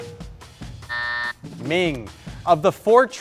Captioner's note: buzzer blares